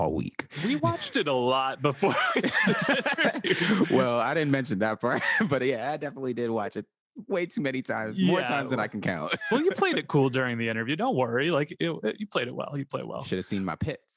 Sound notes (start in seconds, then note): 2.0 all laugh; 2.0 laughs; 9.1 laughs